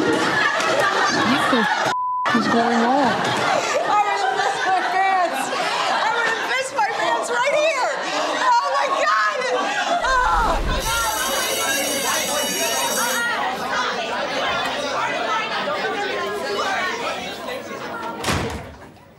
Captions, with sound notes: - What the (beep) is going on? - I'm gonna piss my pants. I'm gonna piss my pants right here. Oh my God. Oh. (school bell ringing) (class chattering)